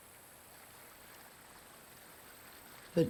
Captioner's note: water trickling